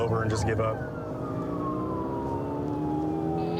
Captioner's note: siren blaring